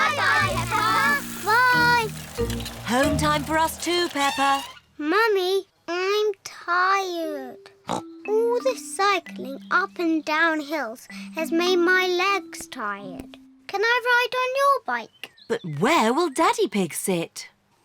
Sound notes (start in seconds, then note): 7.2 snorts